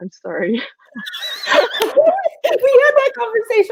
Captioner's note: both laughing